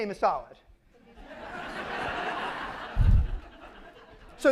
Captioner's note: laughter